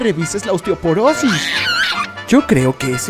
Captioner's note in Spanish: grito de mono